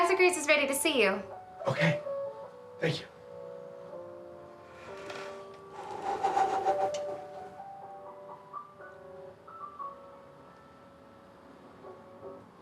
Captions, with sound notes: Dr. Graves is ready to see you. - Okay. Thank you. (sighs) (bright gentle music continues)